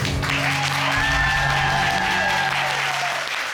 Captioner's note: audience cheering